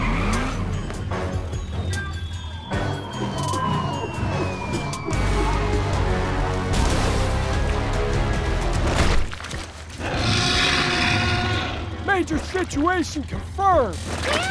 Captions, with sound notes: (tires screeching) (liquid splattering) (dinosaur roars) - Major situation confirmed.